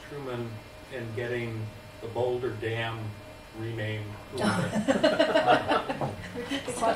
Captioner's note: laughter